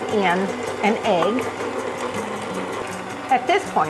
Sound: machine rumbling

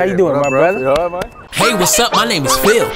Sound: ding

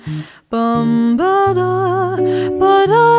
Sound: humming

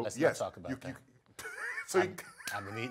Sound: laugh

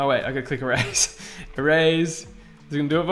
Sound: laughing

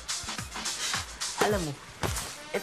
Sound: scoffs

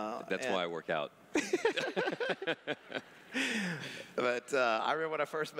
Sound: laugh

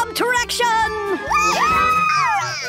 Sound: cheers

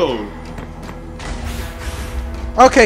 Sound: many explosions

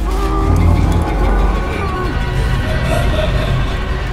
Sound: sinister laughing

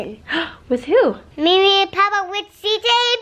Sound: gasps

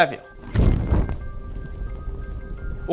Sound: fire sound

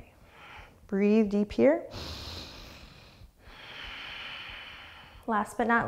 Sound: deep breathing

